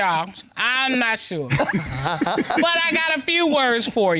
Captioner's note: both laugh